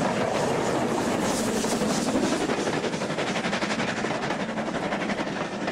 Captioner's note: train passes